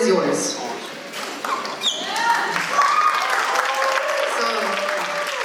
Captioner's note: applause